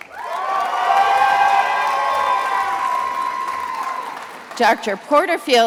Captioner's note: attendees applauding